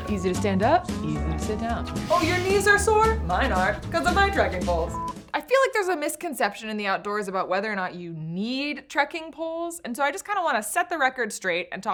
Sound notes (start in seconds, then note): 4.8 beep